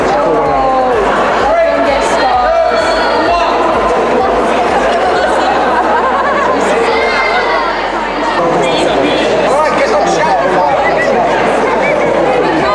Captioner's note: crowd noise